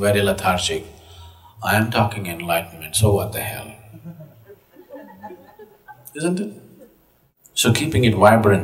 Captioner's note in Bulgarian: Смях